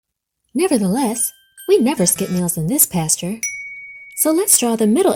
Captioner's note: check mark dings